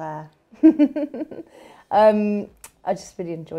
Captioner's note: laughs